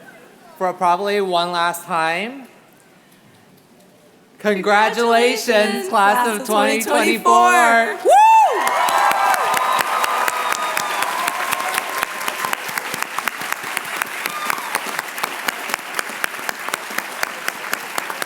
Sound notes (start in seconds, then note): 9.5 applause